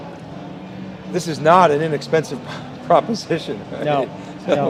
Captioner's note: laughs